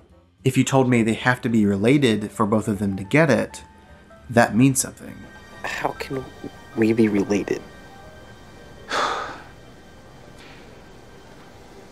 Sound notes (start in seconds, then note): 8.8 sighs